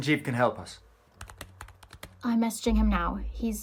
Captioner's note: keyboard clacking